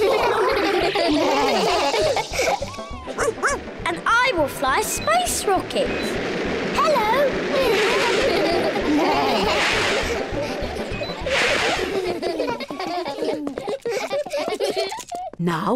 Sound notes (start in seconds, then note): 0.0 all laugh; 3.2 barks; 8.1 all laugh; 12.9 all laugh